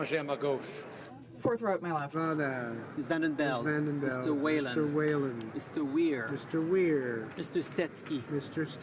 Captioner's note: speaking French